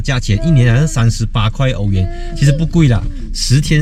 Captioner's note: car